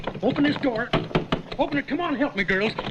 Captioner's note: knocks